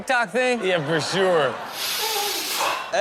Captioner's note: crowd laughing; boy blows